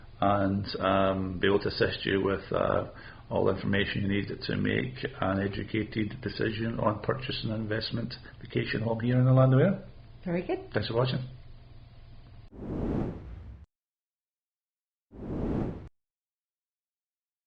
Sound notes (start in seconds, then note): 12.5 whooshing logo